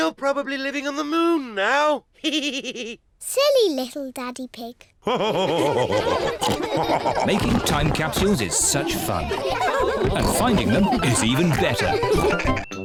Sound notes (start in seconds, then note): 2.2 chuckles; 5.0 all laugh